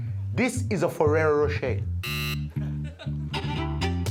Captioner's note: buzzing